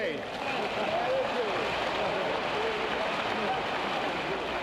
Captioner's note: recorded audience claps